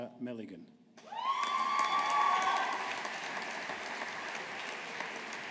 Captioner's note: audience applauding